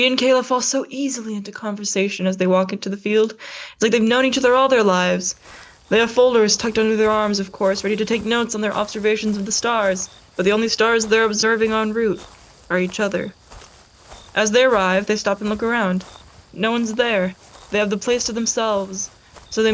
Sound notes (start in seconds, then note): 14.3 walking noises